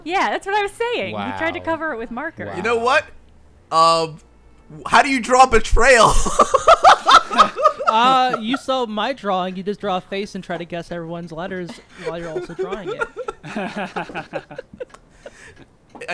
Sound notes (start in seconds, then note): 5.9 laughs; 11.6 group laughing